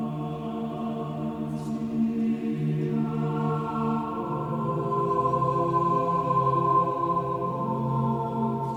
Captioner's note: chant